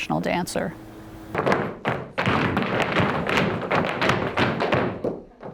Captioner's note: floorboard clanking